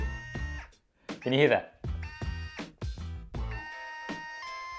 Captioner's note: laughing; buzzing